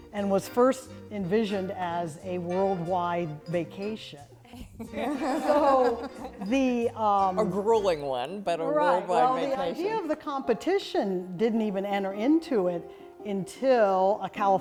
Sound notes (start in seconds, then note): 4.6 laughter